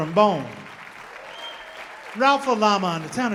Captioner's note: audience applauding